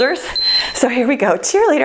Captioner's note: timer beeps